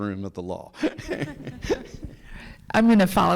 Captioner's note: laughs; people laughing